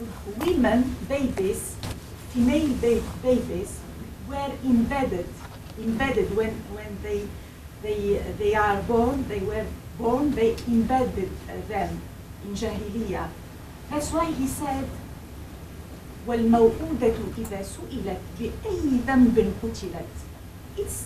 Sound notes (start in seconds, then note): 11.6 speaks foreign language; 16.4 speaking foreign language